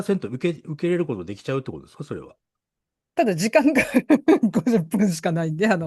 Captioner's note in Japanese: 笑い